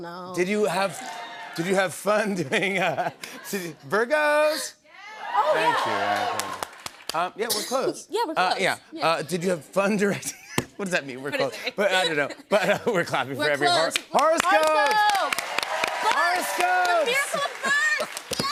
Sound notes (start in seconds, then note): 3.1 laughs; 5.0 whooping; 10.2 laughs; 13.9 clapping